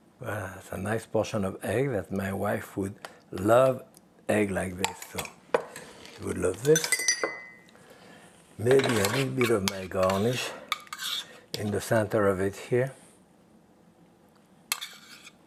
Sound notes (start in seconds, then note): 6.6 glass clinking